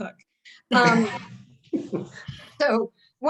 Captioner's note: chuckles